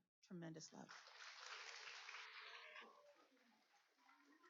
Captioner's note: applauding